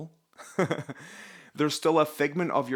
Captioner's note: laughs